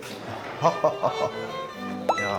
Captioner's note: A hearty laugh